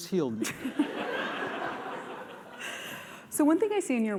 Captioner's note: laughter